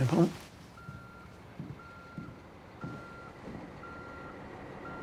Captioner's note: truck backing up